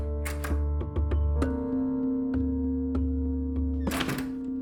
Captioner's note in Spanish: Sonido al abrir la puerta